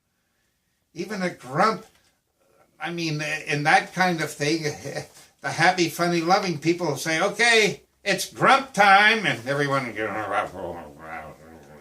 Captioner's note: grumble, grumble, grumble